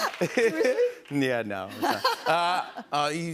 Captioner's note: laughter